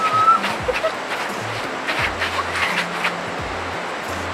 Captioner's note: cheery noises; laughing